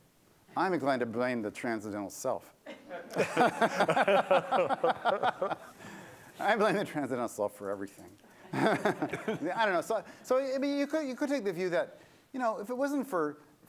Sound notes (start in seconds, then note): 2.6 laughter; 8.4 laughter